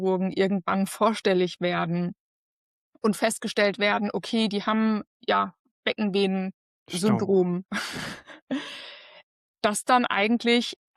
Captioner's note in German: gelächter